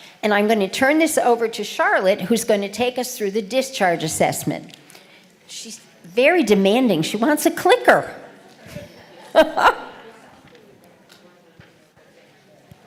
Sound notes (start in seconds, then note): 8.6 laughter